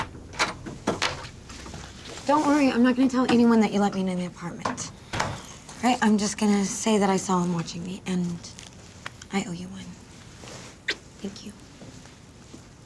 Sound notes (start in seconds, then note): none